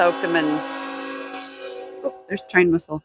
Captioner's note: train whistle